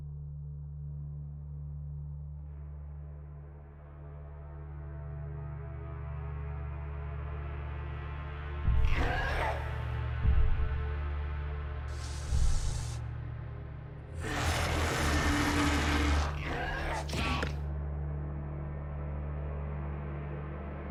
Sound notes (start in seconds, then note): 14.2 dinosaur growling; 18.1 dramatic music